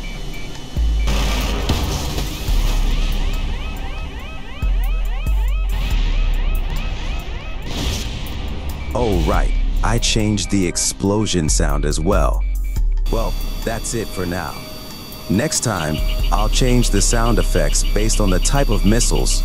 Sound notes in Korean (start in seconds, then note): 1.1 폭발